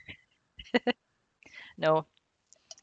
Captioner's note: laughs